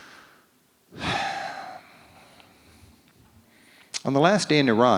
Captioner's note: sighs